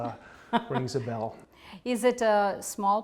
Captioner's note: laughter